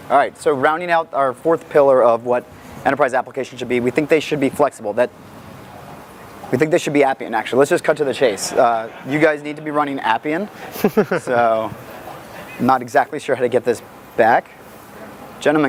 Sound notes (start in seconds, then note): 8.0 audience laughs; 11.2 laughs